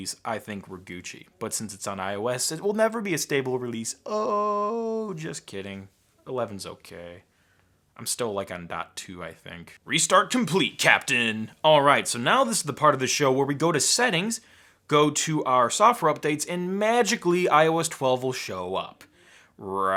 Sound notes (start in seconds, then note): none